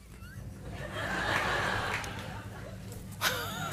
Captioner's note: laughter